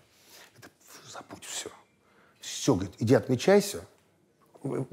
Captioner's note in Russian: тихо